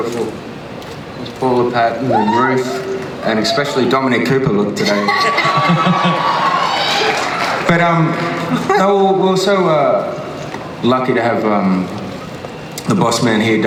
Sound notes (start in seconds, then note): 4.9 laughs